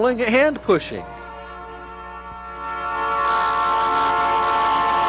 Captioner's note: train hoots and whirs